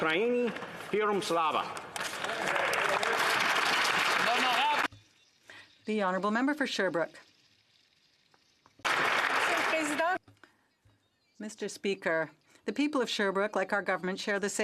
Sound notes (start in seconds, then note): 7.2 speaking ukrainian; 8.8 some Applause